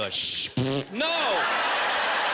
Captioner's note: flatulence